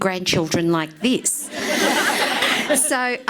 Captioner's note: laughs